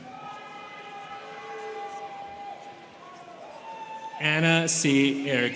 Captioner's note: students cheering